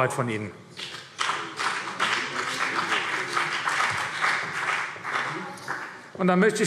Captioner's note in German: Vereinzelter Beifall CDU und BÜNDNIS 90/DIE GRÜNEN